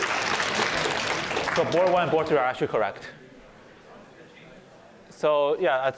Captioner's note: applause